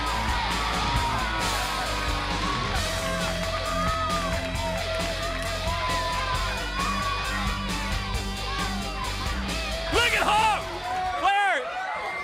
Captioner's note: crowd cheering